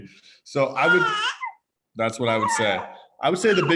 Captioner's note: baby cooing